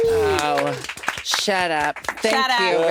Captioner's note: participants applauding